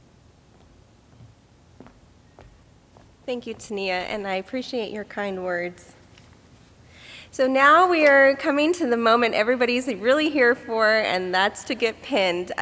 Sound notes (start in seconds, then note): none